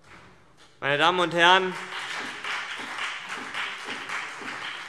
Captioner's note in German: Beifall CDU und BÜNDNIS 90/DIE GRÜNEN